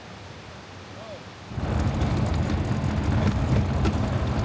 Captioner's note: engine revving